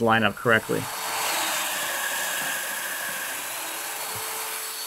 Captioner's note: machine whirs